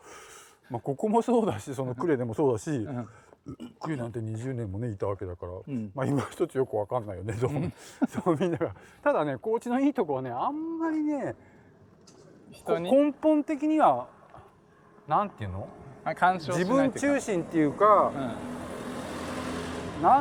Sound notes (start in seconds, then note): 7.4 laugh